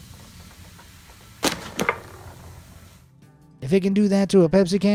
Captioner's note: soda fizzles; turtle snaps